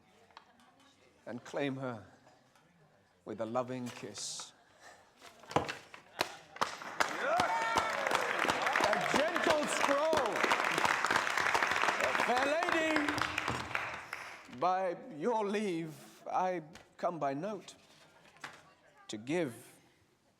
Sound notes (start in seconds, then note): 6.8 cheering